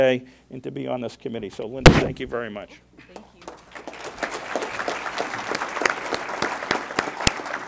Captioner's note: applause